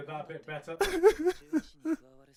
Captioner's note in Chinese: 啜泣聲